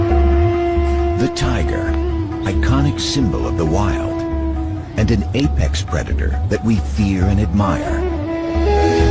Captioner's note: documentary voice over